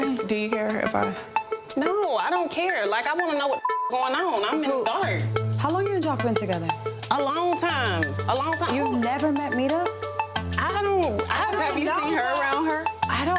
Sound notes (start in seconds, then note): 3.1 beep